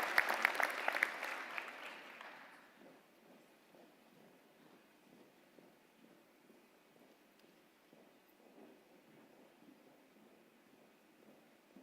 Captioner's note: applause